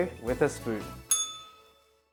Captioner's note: bell rings